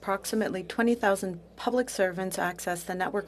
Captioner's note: speaking French